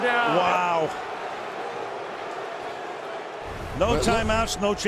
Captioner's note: crowd booing